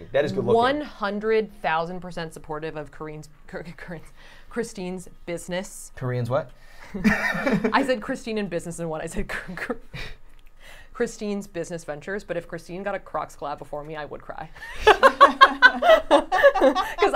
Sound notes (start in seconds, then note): 3.1 stammering; 6.9 chuckling; 9.4 stammering; 14.6 all laughing